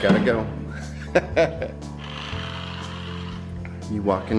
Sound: laughter

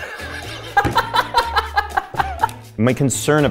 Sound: laugh

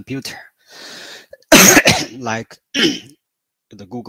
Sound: 咳嗽

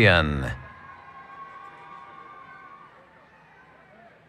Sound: cheering

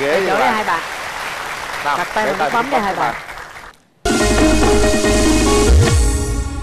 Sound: applause

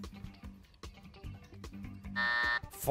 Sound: buzzer

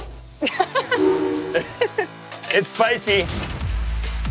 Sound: coughs; laughter

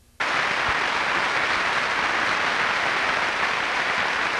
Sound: audience applauds

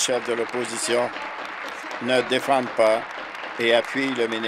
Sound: applause

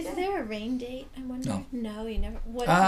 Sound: voiceover

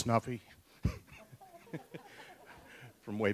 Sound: laughs

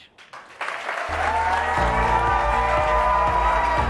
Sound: audience clapping and cheering; light music

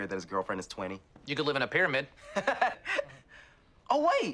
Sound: TROY laughs

